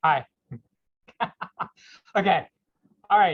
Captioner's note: laughs